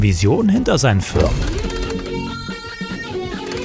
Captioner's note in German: Verzerrte Klänge